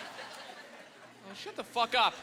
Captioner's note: laughing